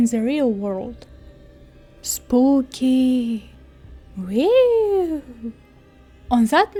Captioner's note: halloween noises